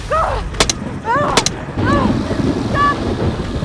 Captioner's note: grunting